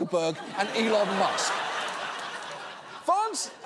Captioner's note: studio audience laughing